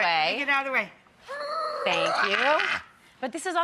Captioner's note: groaning